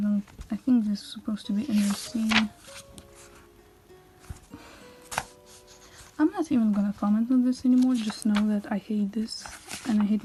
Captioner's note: sigh